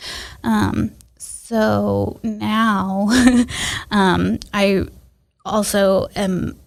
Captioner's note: laughs